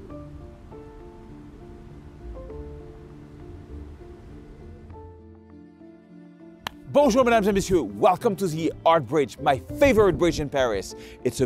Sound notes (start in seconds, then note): 5.9 claps